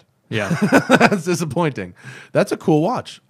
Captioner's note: laughter